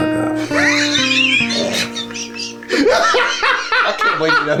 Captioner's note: laughing